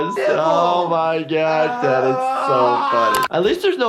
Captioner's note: beep; Wee Man screams